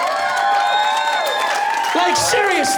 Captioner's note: cheers and applause